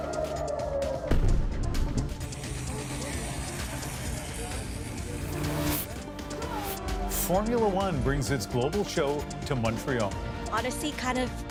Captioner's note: sirens